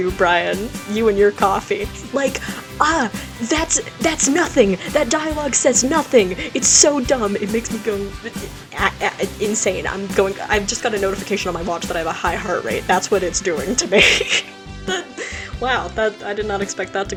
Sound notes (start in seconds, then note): 8.1 stammers; 13.6 laughs